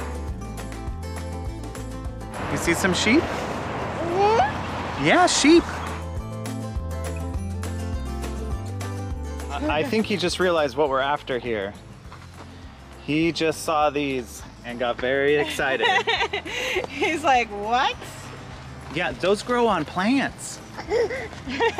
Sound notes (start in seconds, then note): 0.0 mellow music; 4.0 baby cooing; 6.2 mellow music; 15.4 laughing; 20.7 laughing